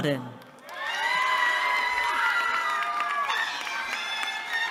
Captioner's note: cheering